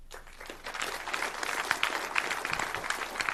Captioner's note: applause